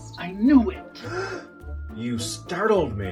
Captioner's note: gasp!